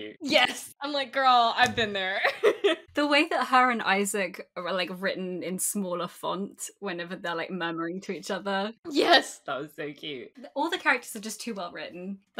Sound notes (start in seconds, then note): 2.2 laughs